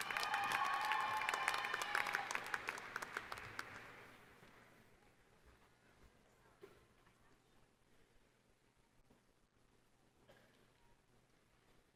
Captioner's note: applause